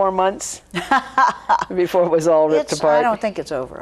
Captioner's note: laughing